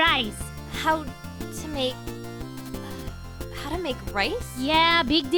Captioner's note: sigh